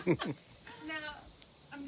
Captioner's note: laughing